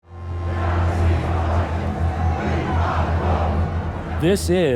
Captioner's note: chanting